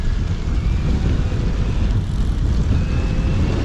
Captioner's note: motor whirring